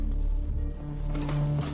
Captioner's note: door opens